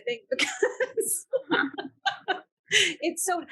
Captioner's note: panelists laughing